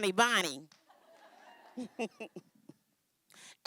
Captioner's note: laughing